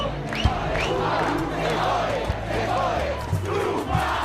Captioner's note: chanting in Spanish